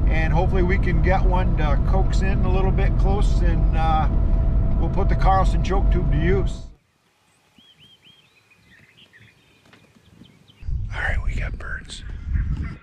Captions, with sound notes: And hopefully we can one to coax in a little bit close and put the Carlson choke tube into use. (birds chirping) - Alright we got birds.